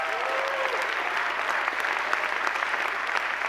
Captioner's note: cheers and applause